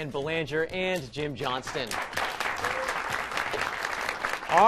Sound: applause

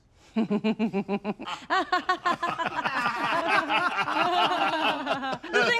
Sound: everyone laughs

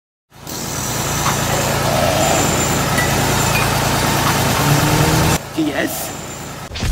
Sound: Sonidos de reparación

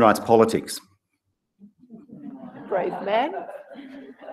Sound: laugh

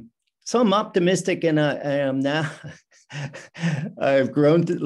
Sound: laughs

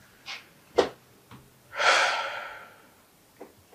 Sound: heavy breath

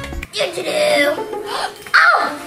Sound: phone chiming

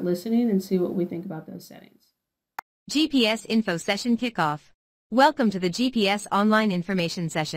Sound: female computer voice reads the first line

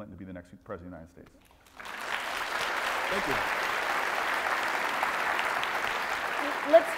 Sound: applause

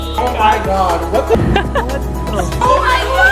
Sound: laughing

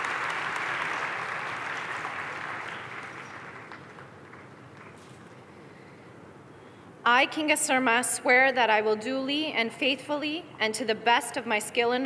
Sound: applause

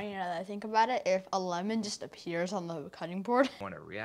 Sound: laughs

